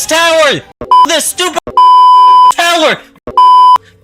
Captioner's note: beep; beeping